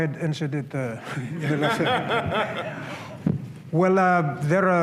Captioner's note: laughter